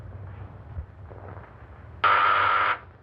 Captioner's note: buzzing